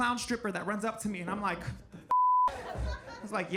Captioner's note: beep